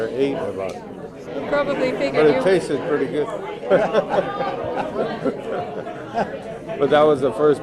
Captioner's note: laughs